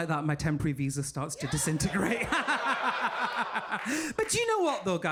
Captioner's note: laughs